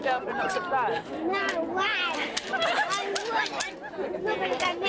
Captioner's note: laughing